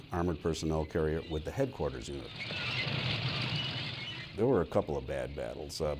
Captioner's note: moving tank echoes